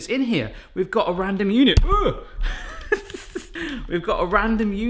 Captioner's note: chuckling